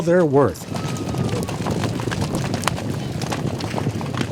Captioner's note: hooves thudding